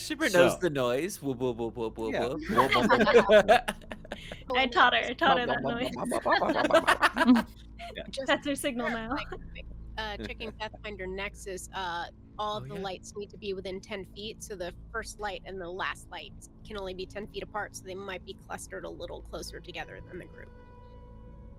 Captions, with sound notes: - Shimmer knows the noise, voo-boo, boo-boo, boo-boop, - Yeah, a little boo-boo-boop. (Cornette laughs) (Violette laughs) - I'd taught her. I taught her that noise. - Bup-bup-bup-bup-bup. (Cornette laughs) - Mm-hmm. - Yeah. - That's her signal now. - Yeah, it's like (Game Master laughs) chicken Pathfinder nexus, all of the lights need to be within 10 feet. So the first light and the last lights can only be 10 feet apart, so they might be clustered a little closer together than the group.